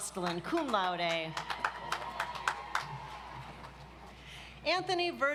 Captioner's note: audience applauds